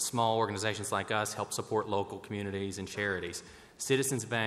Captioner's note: none